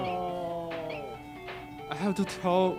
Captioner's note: game beeping